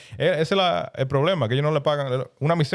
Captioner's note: speaking In Foreign Language